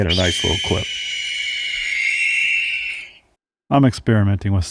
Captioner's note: high pitch squealing